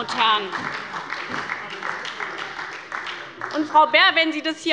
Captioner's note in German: Beifall bei der SPD